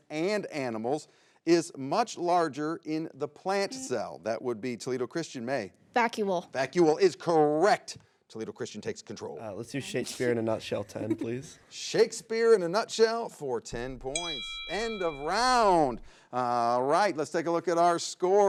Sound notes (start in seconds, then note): 14.1 bell rings